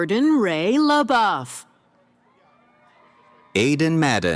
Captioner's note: cheering